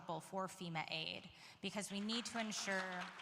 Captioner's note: applause